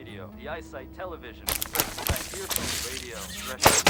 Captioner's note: shooting noises